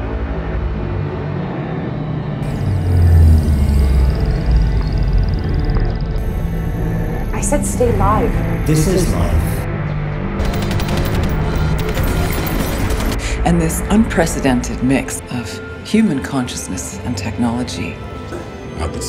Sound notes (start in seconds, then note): 10.4 gunfire